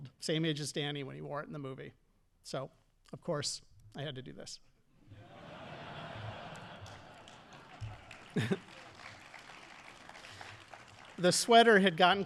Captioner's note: audience laughing and applauding